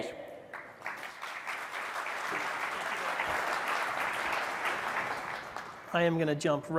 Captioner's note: applause